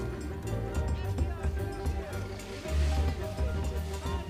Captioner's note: man shouting